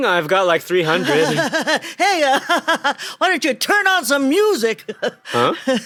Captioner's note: nervously laughs